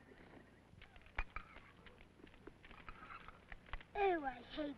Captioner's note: fire crackling